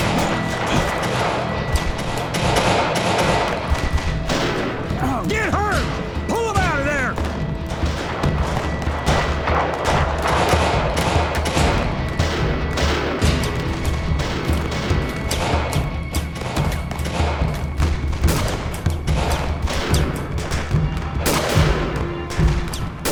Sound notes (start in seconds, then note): 0.0 gunshots; 17.2 gunshots continue